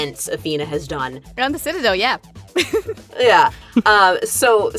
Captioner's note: giggles